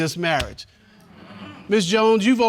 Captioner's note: audience groaning